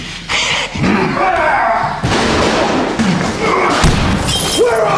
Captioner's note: Batman yells